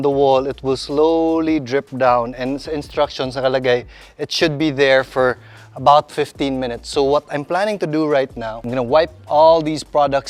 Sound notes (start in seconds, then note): none